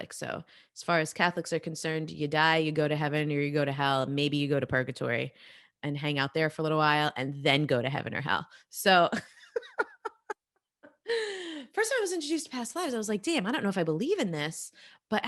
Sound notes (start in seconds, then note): 9.5 laughing